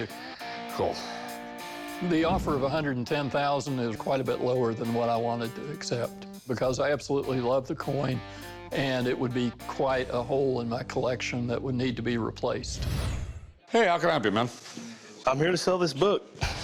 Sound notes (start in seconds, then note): none